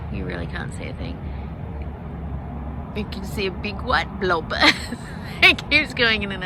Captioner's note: laughs